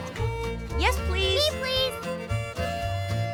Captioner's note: laughing